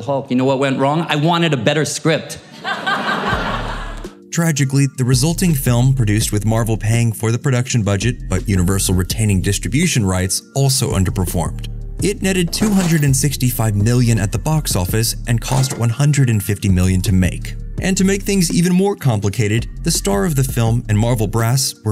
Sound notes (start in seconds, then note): 2.4 laughter